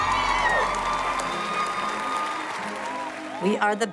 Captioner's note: applause